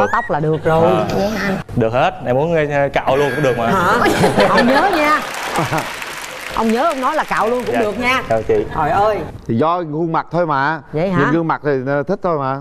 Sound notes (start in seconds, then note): 3.2 laugh; 4.4 audience applause